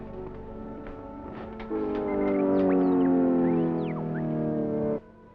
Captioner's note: computer noises